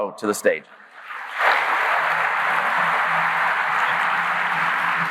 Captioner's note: audience clapping